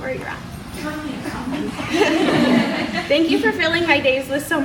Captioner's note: audience laughs